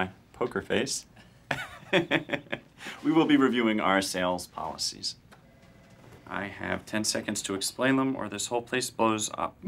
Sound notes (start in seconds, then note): 1.5 chuckles